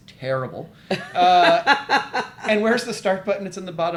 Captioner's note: laughing